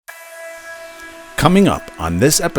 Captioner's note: ominous sweeping tone